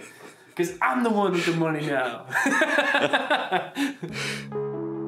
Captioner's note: laughs